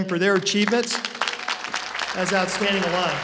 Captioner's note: applause